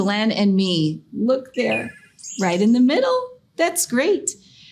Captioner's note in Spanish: canto de pájaros